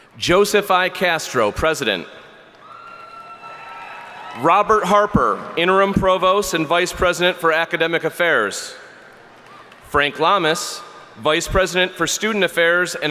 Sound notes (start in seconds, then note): 2.6 audience cheering